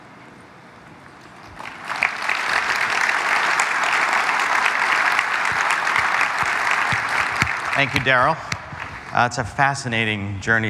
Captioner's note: applause